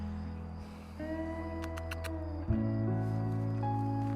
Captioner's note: clicks tongue